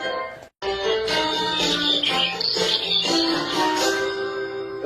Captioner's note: bird chirping